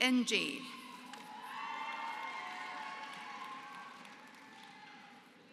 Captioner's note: applause